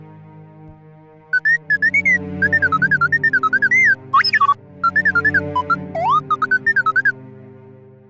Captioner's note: t3-m4 beeps